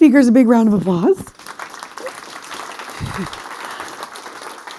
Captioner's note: applause